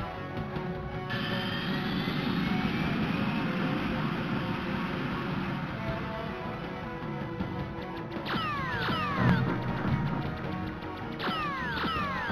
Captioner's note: more game sounds